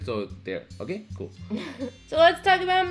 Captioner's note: giggles